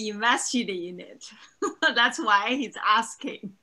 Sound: chuckles

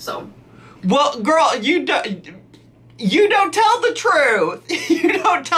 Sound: laughing

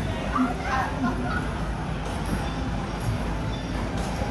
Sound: laughing

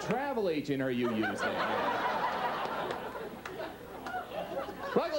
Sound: audience laughs

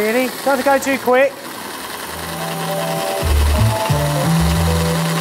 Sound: drilling

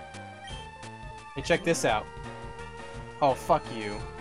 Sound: none

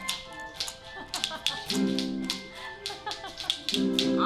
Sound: laughters in background

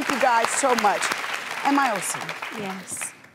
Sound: applause

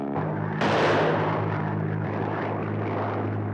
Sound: suspenseful music; rifle firing

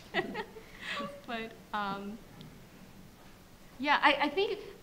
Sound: laughs

